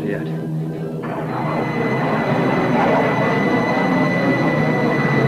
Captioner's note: planes engines revving